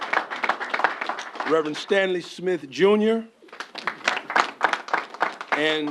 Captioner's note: applause